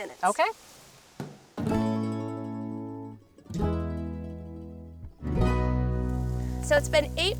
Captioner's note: lid thumping; light music